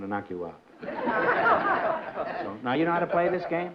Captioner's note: laughter